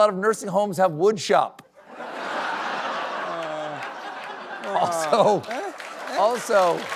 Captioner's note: applause